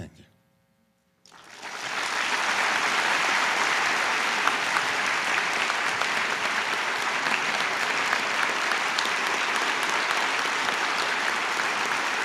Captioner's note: applause